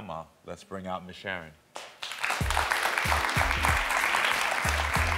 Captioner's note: crowd clapping